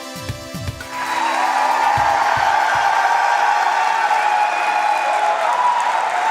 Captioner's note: cheers and applause